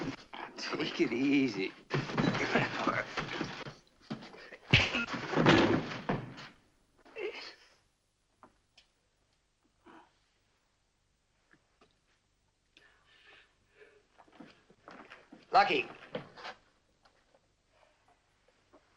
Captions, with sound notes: Take it easy. [ PUNCH ] [ GRUNTING ] Lucky!